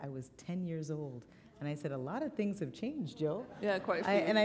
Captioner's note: laughter